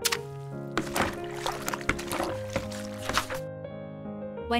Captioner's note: water sloshes